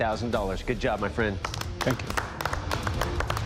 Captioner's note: applause